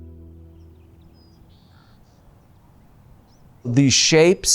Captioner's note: birds chirping